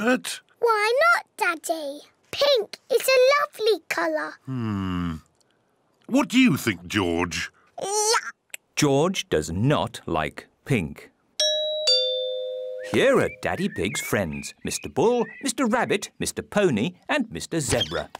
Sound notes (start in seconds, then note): 11.4 doorbell rings